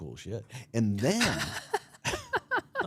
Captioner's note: laughs